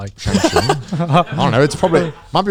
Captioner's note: laughing